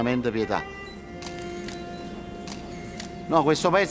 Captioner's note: cameras clicking